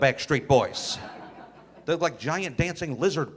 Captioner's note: audience laughing